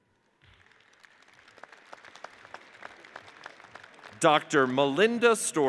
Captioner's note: audience cheers and applauds; audience applauds